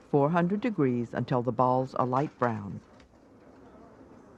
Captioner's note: voiceover